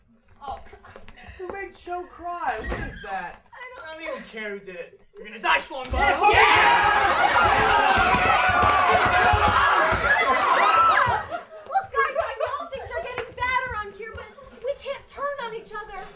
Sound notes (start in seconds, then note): 6.0 kids yelling